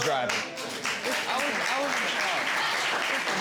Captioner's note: applause